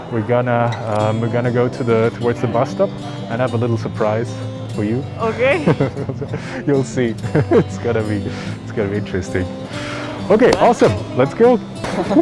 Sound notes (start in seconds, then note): 6.1 giggles; 7.2 laughs